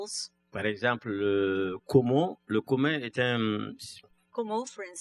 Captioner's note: speaking french